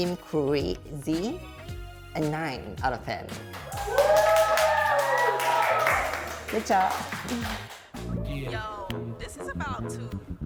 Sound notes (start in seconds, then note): 3.3 claps